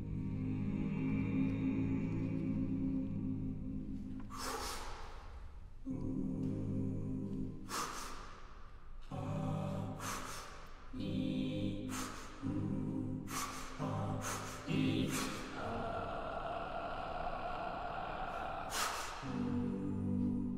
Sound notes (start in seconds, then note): 0.4 exhale; 4.2 inhale; 7.6 exhale; 8.7 inhale; 11.8 exhale; 14.9 exhale; 15.0 inhale